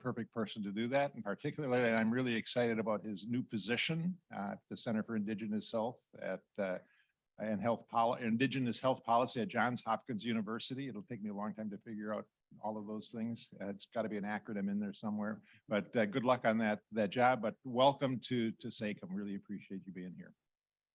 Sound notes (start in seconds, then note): 17.9 speaking in indigenous language